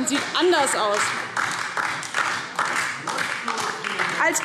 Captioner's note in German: Beifall